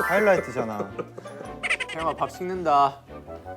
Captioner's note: Tertawa